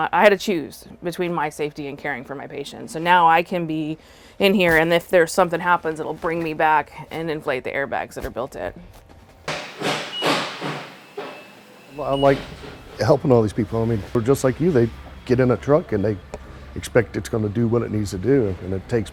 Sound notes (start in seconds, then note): 9.0 repair noise